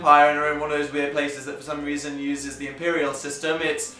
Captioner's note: none